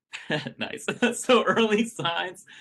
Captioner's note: chuckles